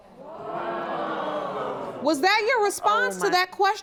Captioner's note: audience groans